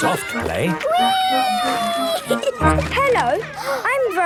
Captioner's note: giggling